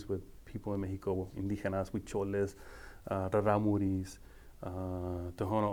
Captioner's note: speaking foreign language